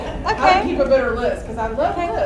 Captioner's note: voiceover